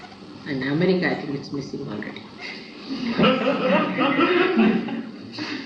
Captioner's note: laughter